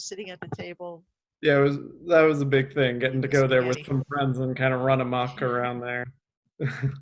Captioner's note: both laugh